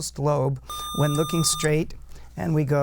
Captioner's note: buzzer